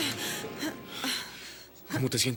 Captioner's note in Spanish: buzina; música dramática; respiração pesada